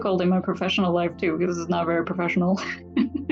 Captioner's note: laughs